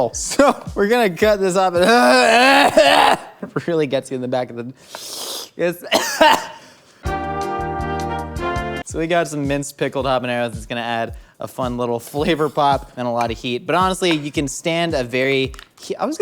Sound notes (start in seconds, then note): 5.8 coughs; 7.3 light music